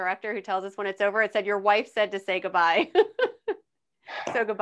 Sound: laughing

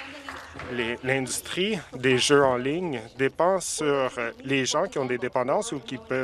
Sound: applause

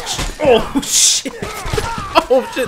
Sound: laughing

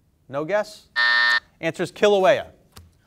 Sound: timer buzzes

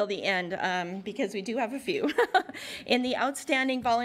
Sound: laughs

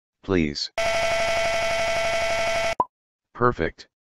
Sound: glitch sounds; pop

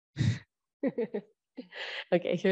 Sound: laughing

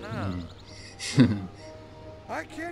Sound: giggles

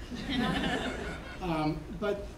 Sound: laughing

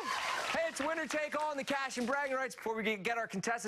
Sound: cheers and applause

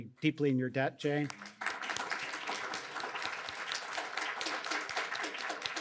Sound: audience applauding

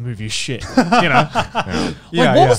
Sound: everyone laughs

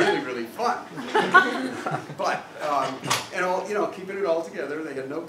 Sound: laugh

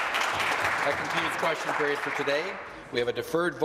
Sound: applause

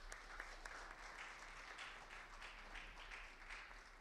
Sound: audience applauds

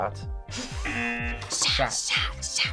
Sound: audio buzzes

